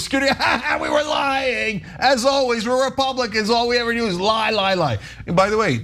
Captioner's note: laugh